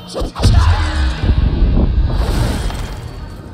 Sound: sonic boom

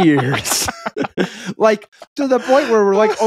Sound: laughing

